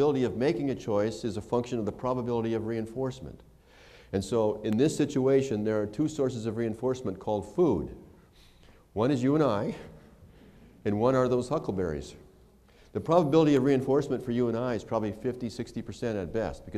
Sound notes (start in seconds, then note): none